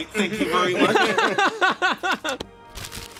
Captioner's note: laughs